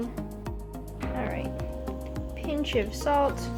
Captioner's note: quietly